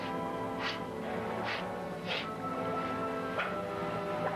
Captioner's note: Ferris sniffing